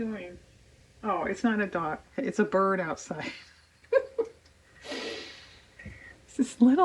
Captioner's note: laughs